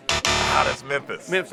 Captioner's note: X buzzes